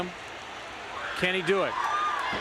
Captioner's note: crowd cheering